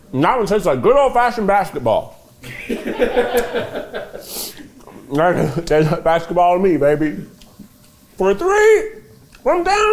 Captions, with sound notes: and that one tastes like good old fashioned basketball. (cast laughing) Tastes like basketball to me, baby. For three from downtown.